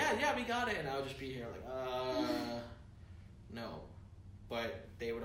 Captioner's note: groans